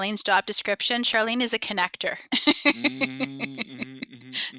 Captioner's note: chuckles